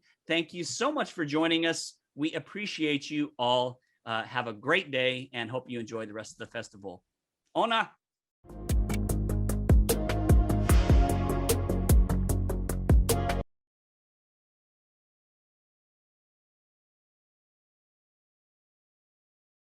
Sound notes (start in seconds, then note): 7.5 speaks in indigenous language; 8.5 peaceful music